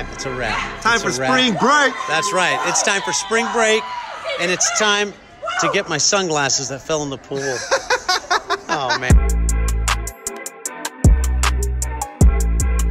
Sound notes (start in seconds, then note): 7.3 boy laughing; 8.5 slow grooving music